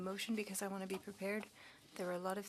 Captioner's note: speaking French